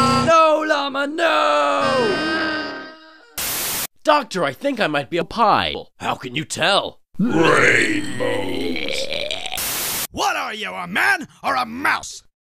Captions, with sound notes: No, Marty! Noo!! Doctor, I think I might be a pie. How can you tell? (VOMITS) R A I N B O W S What are you? A man? Or a mouse?